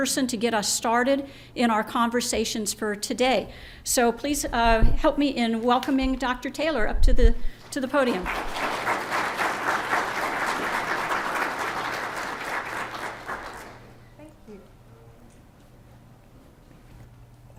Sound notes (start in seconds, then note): 7.6 applause